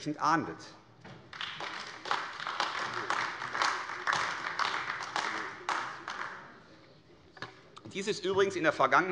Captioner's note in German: Beifall AfD